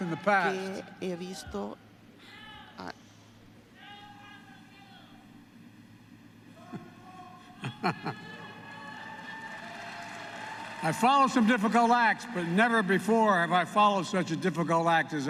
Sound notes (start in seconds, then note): 7.4 laughs; 8.4 applause